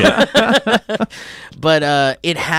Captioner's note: laughs